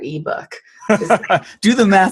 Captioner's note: laughs